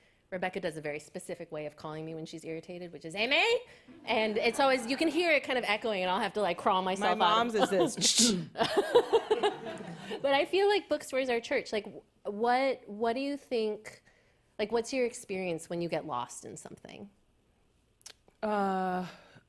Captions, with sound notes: Rebecca does a very specific way of calling me when she's irritated, which is, "Amy." [laughter] And it's always, you can hear it kind of echoing and I'll have to like crawl on myself out. -My mom's is this, "Shh-shh." -[laughs] But I feel like bookstores are a church. Like, w-what-what do you think-- Like what's your experience when you get lost in something? -Uh.